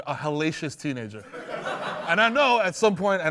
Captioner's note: laughter